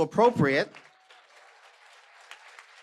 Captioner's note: applause